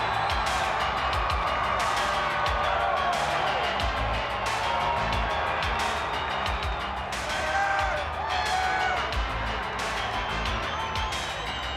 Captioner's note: crowd cheering